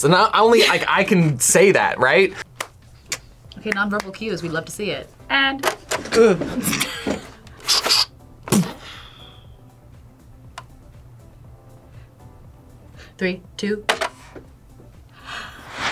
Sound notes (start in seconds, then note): 6.1 laughs; 7.6 James imitates gunfire